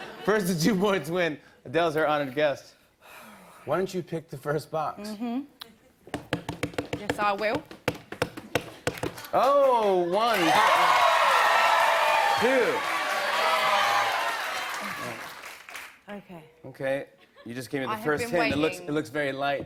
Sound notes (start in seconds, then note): 9.3 cheers and applause; 12.7 audience shouting